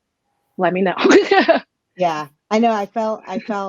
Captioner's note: laughs